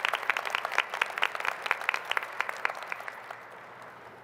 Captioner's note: applause